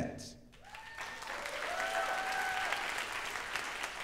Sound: audience cheers

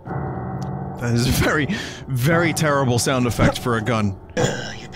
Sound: character grunts

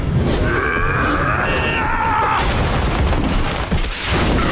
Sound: grunting

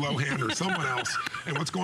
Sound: laughter

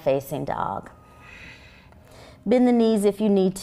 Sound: exhaling

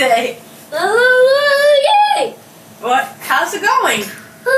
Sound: babbling

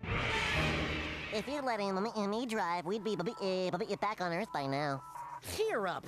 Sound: stuttering

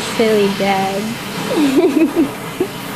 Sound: laughs

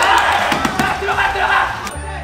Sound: clapping; slamming x3

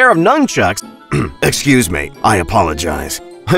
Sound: clears throat

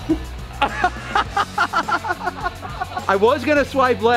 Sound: laughing

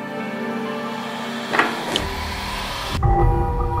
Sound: emotional music; door opens; sinister music

